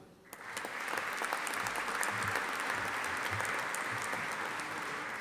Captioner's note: audience applauding